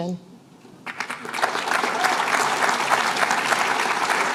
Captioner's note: applause